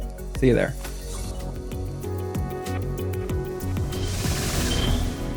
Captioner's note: air whooshing